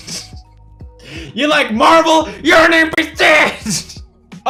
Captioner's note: laugh; laugh